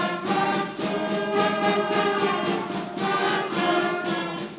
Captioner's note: none